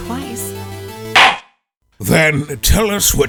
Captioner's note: gavel slams!